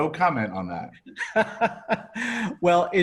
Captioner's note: laughs